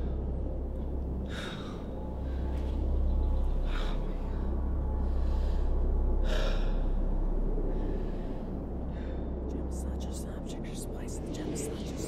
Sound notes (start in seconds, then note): 9.7 faint voice whispering